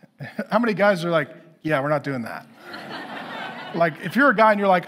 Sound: congregation laughing

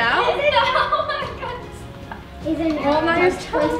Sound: laughs

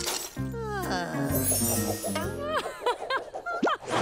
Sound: laughing

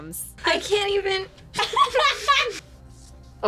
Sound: laughs

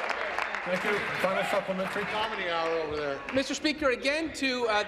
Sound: applause

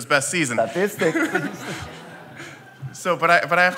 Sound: laughter

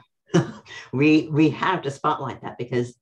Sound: laughs

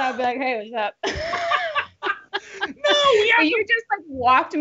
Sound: both laughing

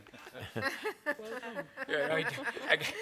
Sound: laughter

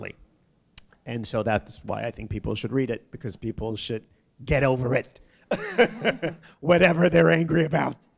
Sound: chuckle

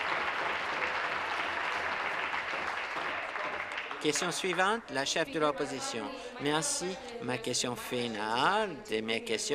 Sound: some Applause

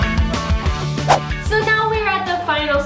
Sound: swooshing

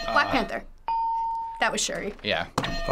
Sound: ding

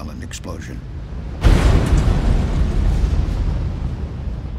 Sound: explosion booms

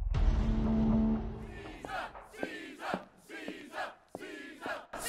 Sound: distant chanting

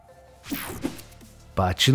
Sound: image whooshing

